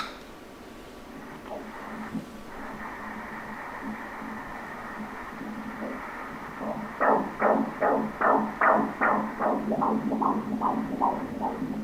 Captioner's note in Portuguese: batimentos do coração do bebê